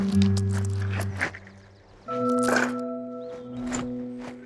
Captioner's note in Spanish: Sonido de monedas